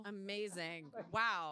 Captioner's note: laughter